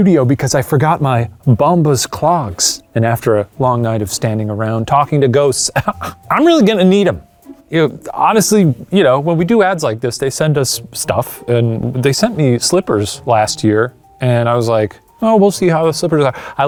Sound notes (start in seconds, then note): 5.7 chuckles